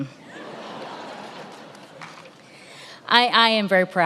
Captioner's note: attendees laughing